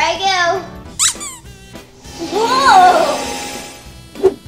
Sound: squeaking

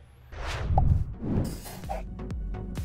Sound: ball swishing; upbeat music

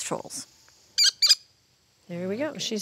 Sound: bird squawking

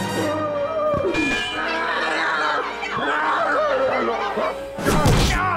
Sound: moaning

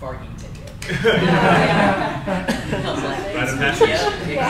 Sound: crowd laughs

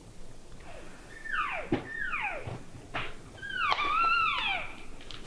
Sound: caller cow calling and raking

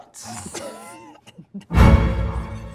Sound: laughter; tense music

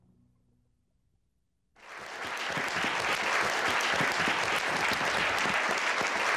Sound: applause

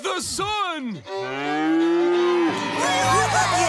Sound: mooing; cheering

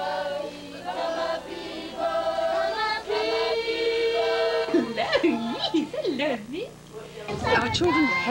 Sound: non-english speech

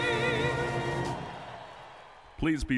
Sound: audience cheering

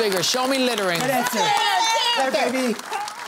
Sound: cheering

